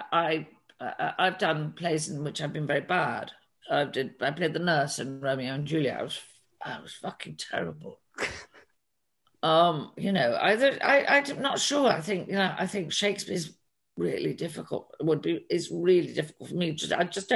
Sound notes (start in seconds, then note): 8.2 chuckles